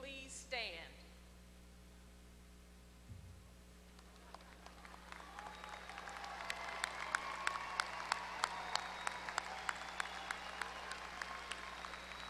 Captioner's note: applause